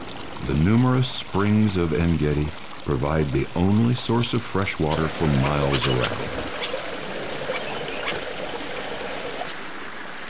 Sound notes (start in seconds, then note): 6.9 water sounds